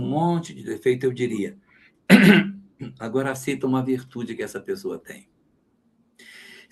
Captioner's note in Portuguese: limpando a garganta